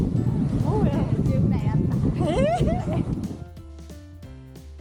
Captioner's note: laughs